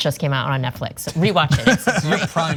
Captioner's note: laugh